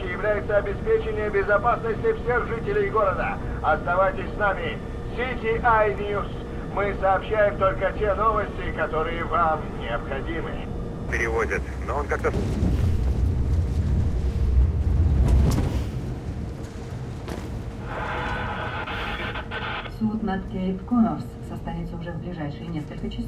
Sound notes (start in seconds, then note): 17.7 помехи